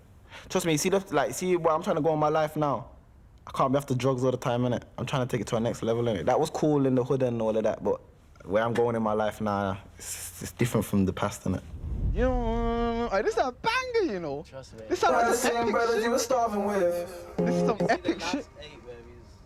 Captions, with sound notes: Trust me, see where I'm trying to go in my life now. I can't be after drugs all the time, innit? I'm trying to take it to a next level. That was cool in the hood, and all that, but where I'm going in my life now, it's different from the past, innit? (humming) Hey, this is a banger, you know?! (rap music) This is some epic shit.